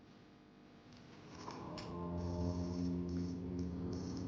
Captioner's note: light buzzing